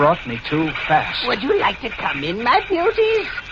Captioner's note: laughs, to the rats